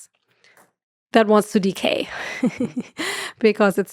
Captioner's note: laughs